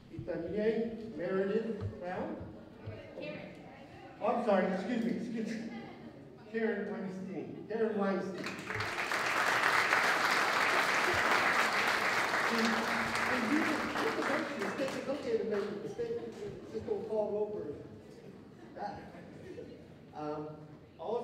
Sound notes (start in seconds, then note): 8.3 applause